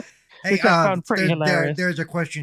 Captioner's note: lauging